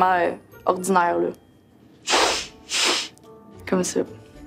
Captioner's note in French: reniflement